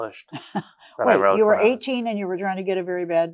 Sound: chuckles

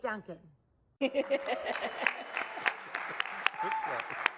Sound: laughing; audience claps and cheers

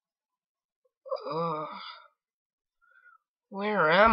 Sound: groan

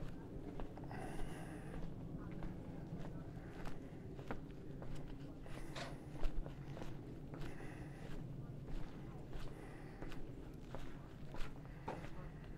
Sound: background chatter

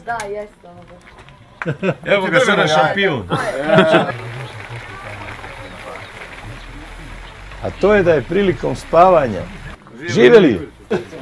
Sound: applause

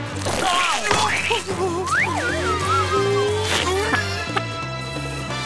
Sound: whimpering

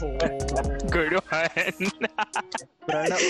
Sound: chuckles

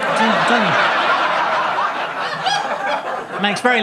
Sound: audience laughing

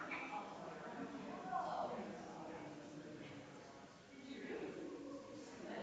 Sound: people chattering distantly continues

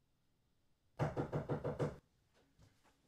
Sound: knocking

